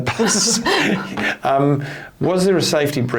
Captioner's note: both giggling